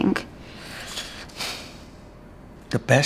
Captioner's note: sighs